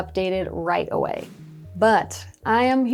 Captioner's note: air whooshing